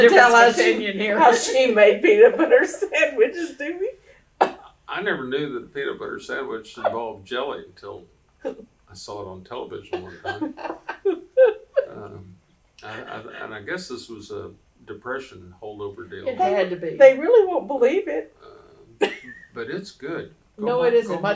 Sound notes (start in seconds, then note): 6.8 laughter